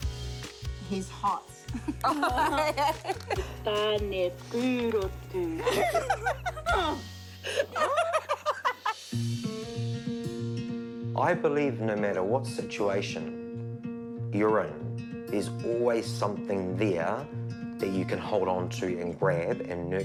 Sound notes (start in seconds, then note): 1.8 all laugh; 5.5 all laugh; 9.0 whoosh!